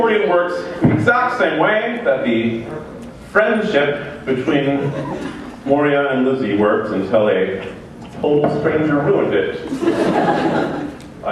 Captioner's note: laughter